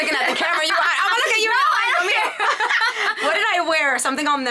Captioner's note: both laughing